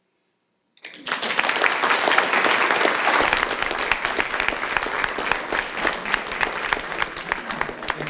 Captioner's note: applause